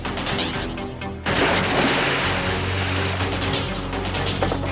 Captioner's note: water splashes; dramatic music